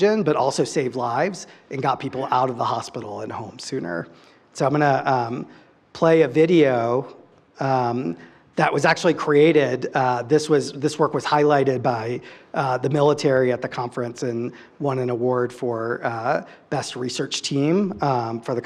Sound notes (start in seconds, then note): none